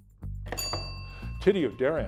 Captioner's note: bell ringing